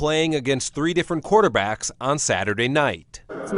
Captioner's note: crowd